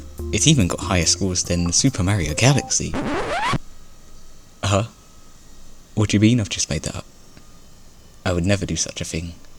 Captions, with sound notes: It even got higher scores than Super Mario Galaxy?? *Record Scratch* Huh What do you mean I've just made that up? I would never do such a thing.